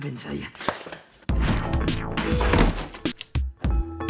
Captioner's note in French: sonnette